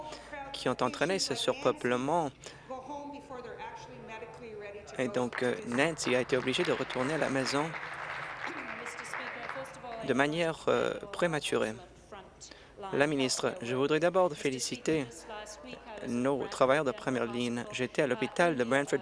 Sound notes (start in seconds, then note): 10.8 applause